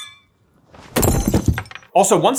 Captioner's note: clink; thud